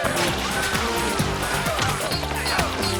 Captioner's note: groaning